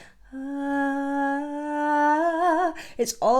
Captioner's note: vocalizes